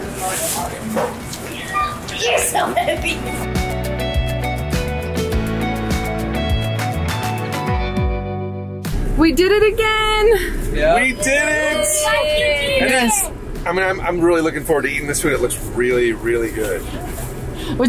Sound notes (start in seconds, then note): 2.8 upbeat music; 10.8 kids cheering